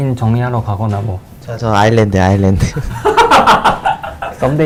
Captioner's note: laughs